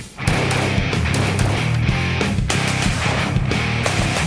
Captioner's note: rapid gunfire